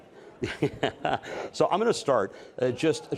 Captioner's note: laughs